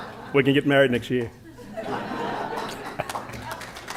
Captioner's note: laughter; applause